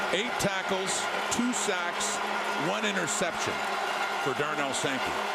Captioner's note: crowd Noise